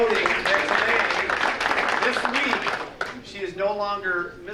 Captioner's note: audience applauding